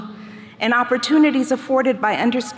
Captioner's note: none